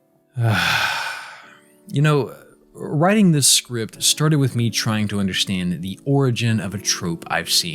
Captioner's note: deep breath